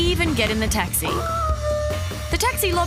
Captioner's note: howls